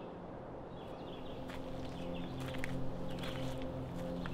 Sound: wind blows softly and birds sing

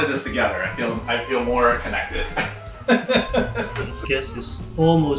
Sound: laughs

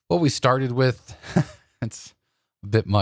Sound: chuckles

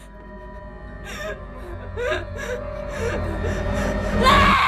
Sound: crying; shouts

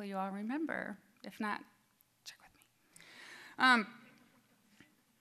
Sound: whispering

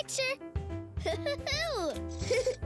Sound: laughs

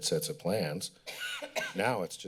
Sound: coughing

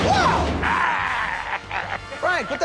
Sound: growling

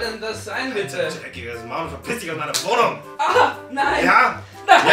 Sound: slap

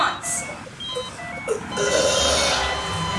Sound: beeping

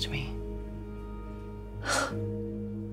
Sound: exhales sharply

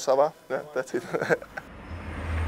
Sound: laughs

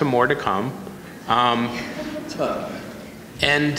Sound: audience laughing

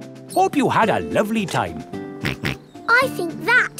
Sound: snorts

